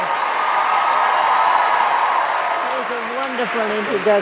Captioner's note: audience cheering